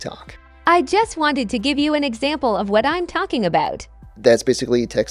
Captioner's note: female TTS voice